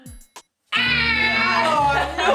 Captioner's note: buzzer buzzing